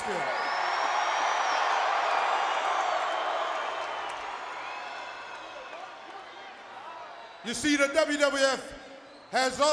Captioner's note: applause